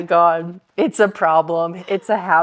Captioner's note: laughing